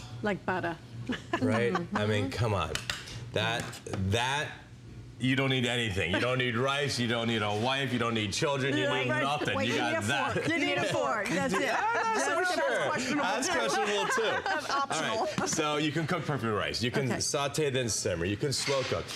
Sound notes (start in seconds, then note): 10.0 laughter; 13.4 laughter